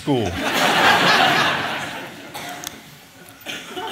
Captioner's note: audience laughing